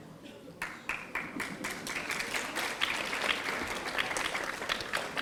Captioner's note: audience applauding